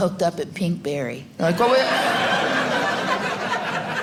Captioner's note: audience laughing